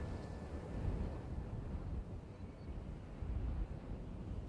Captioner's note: wind blowing